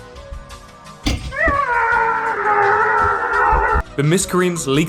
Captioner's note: spinning and yelling